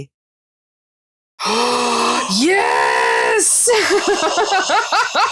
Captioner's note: both gasping